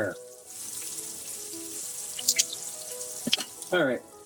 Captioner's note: sizzling